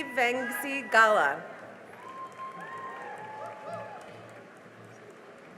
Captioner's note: cheering and applause